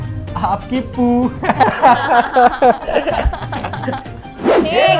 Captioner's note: Laughing